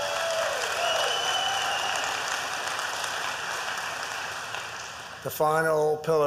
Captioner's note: applause